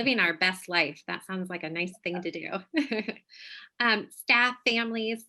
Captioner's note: chuckles